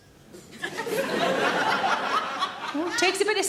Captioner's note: audience laughs